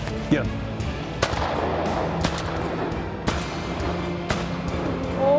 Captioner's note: gun shots